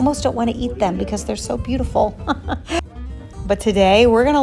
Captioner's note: laughing